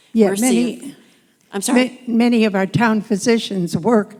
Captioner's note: voiceover